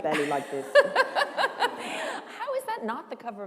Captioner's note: laughter